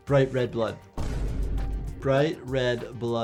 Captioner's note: dramatic thud